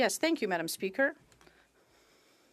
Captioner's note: speaking French